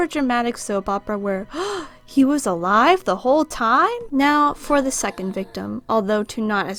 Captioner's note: gasp